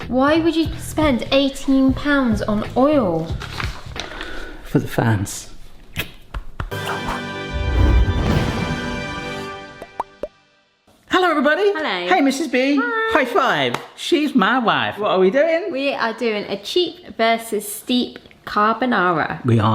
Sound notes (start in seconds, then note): 6.7 kisses; 6.7 upbeat music; 9.8 logo popping